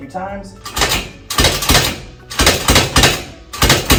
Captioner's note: table rattling